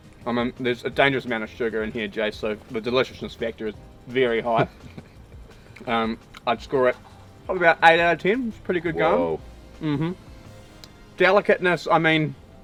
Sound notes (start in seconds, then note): 4.4 chuckles